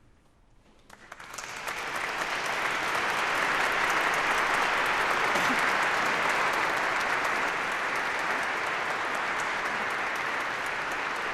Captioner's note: applause